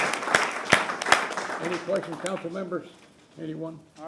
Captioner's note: applause